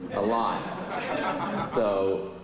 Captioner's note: laughter